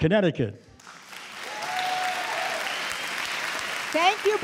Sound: audience cheering and clapping

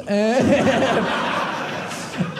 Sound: audience laughing

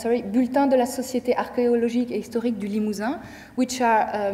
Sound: speaking in French

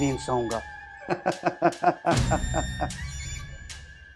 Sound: laughing

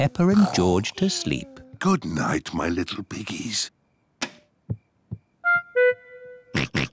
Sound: light switch clicks; oinks

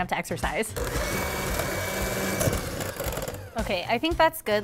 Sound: machine beating

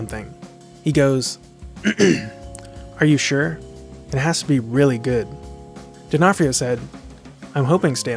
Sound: clears throat

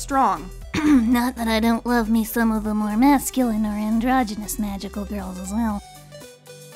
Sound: clears throat

